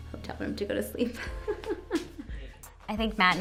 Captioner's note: chuckling